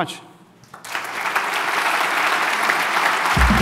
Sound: applause

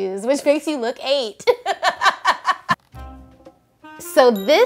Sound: laughs

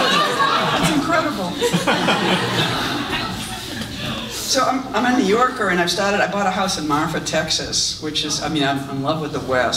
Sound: audience laughs

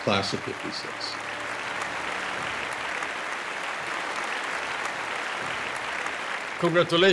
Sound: applause

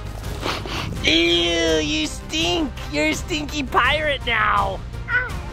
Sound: sniffs

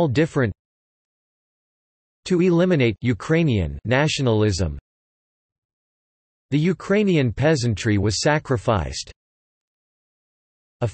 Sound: Ukrainian

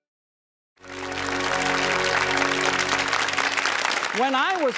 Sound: crowd clapping

